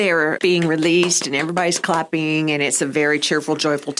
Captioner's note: claps